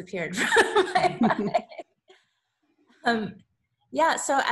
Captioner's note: laughs